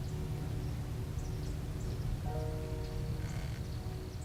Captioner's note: birds chirping